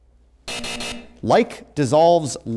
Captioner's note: hard buzzing